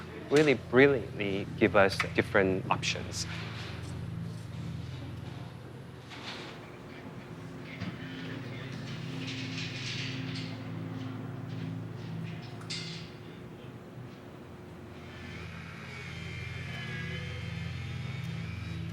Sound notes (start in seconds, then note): 3.8 background chatter, rattling; 16.3 sawing